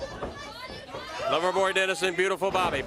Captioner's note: crowd cheering